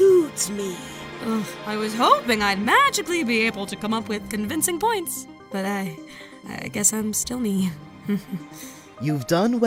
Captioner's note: chuckle